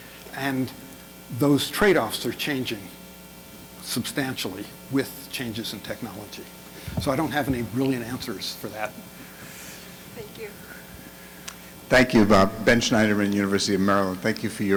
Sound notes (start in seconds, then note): 12.2 voiceover